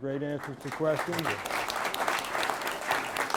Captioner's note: applause